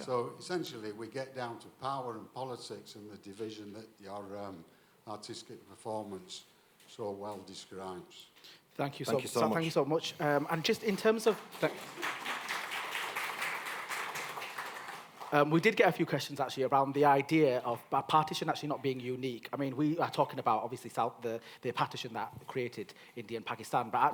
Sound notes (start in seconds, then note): 10.8 applause